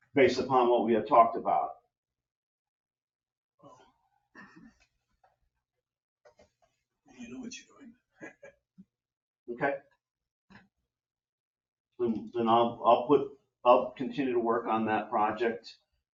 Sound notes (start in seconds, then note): 8.2 laughs